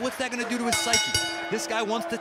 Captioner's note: bell ringing